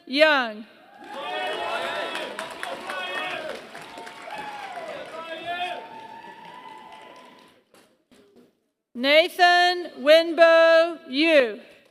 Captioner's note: applause